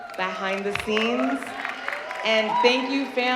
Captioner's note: audience cheering